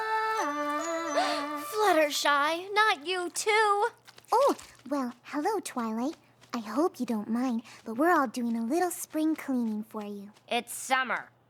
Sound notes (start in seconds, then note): 1.1 gasps